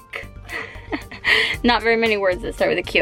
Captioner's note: laughs